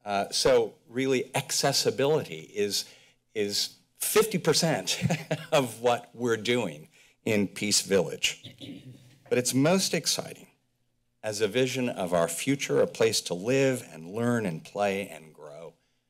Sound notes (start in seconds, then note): 4.9 chuckles